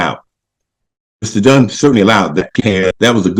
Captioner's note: audio distorts